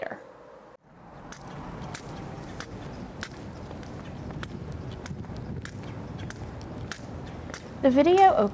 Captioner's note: tapping